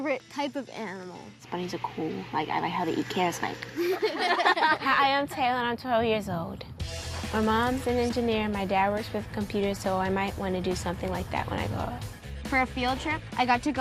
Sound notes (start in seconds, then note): 3.7 all laugh